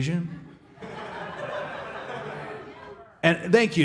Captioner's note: audience laughing